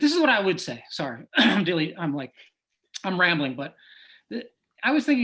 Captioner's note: clears throat